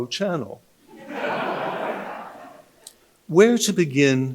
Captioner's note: audience laughing